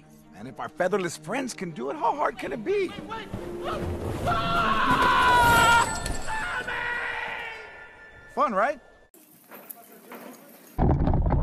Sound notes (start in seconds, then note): 4.2 screaming